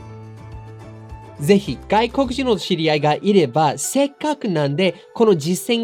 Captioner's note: speaking in foreign language